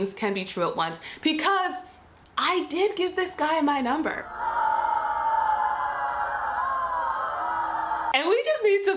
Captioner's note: crowd boos